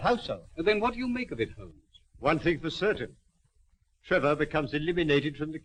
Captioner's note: none